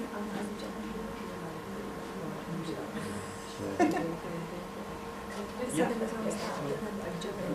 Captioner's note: audience murmering off camera